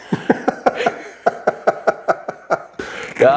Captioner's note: laughing